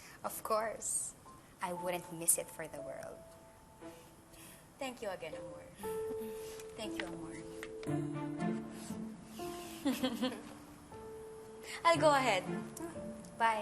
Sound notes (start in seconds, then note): 9.8 giggles